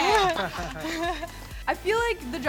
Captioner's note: judges clapping